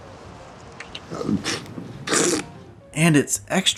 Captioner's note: raspberry